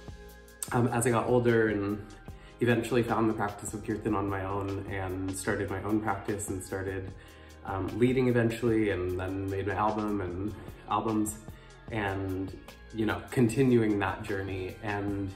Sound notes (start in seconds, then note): none